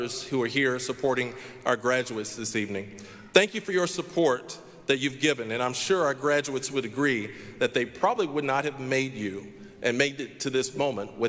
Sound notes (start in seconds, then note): none